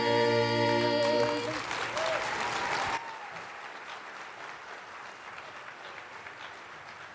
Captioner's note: attendees applauding; attendees cheering